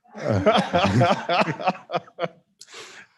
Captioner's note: laughs